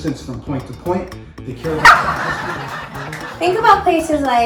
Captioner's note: audience laughs